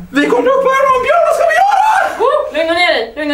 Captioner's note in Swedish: irriterande falsett